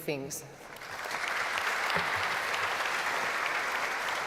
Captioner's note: applause